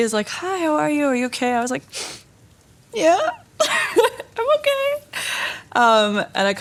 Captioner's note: sniffs